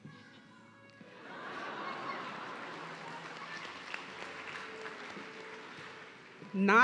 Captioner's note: audience laughing and clapping